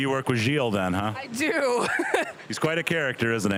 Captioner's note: laughing